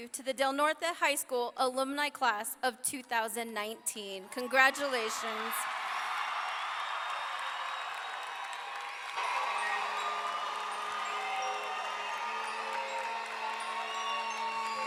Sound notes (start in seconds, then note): 6.1 audience clapping and cheering; 10.7 celebratory orchestral music